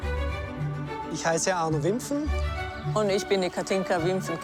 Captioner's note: speaking foreign language; speaking in foreign language